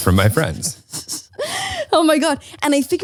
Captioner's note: laughs